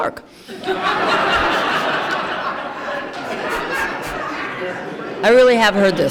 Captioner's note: laughter